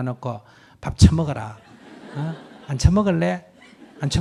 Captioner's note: audience laughter